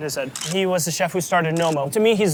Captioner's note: camera shutter clicks